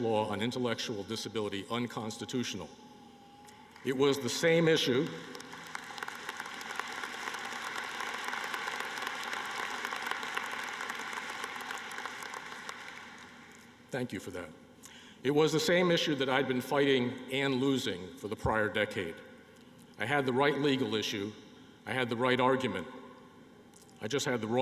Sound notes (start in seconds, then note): 6.4 applause